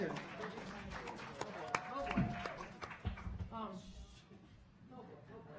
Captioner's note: audience applauding